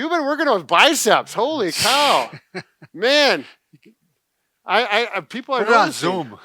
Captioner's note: laughing